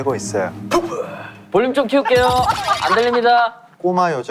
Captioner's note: laughing out loud